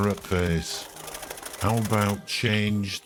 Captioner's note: birds wings fluttering